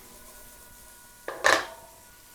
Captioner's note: can clinks